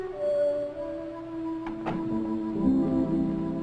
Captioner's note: door closing